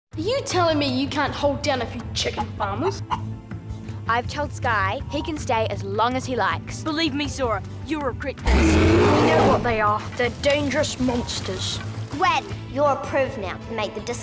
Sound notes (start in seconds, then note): 8.4 machine roaring